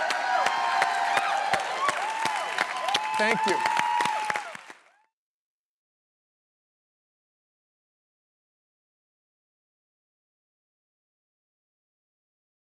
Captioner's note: applause